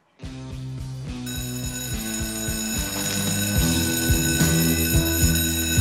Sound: class bell ringing

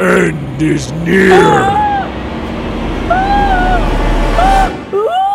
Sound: screams

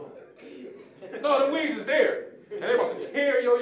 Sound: audience laughing

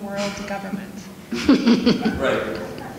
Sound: audience laughing

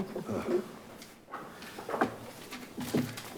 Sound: laughs

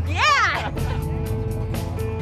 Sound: laughs

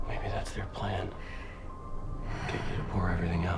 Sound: sighs

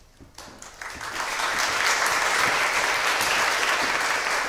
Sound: applause

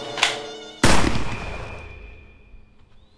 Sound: gun shot rings

